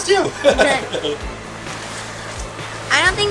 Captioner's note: laughter